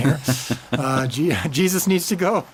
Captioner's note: laughs